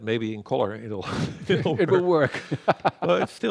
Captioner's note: laughs